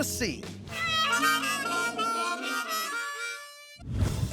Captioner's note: horn sound